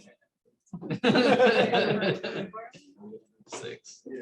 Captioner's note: laughter